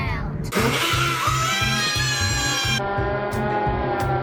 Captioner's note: kids cheering